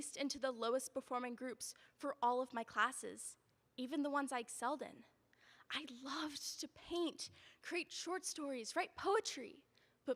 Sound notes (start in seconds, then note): none